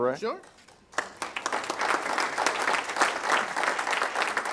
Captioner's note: applause